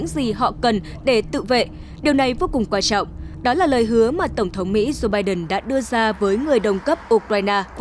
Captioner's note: Ukrainian